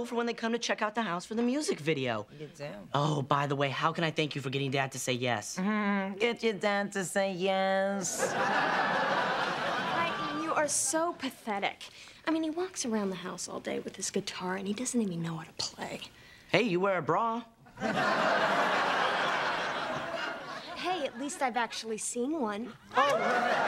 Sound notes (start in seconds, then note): 17.7 laughter